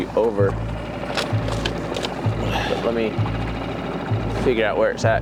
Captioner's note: sighs